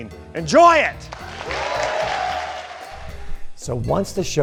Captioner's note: cheers and applause